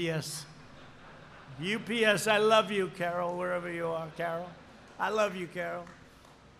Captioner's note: laughter